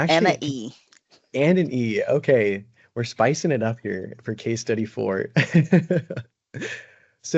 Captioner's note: brief laughter